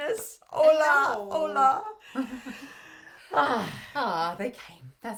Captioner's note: laughs